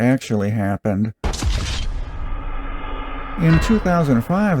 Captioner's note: GTA "Wasted" sound effect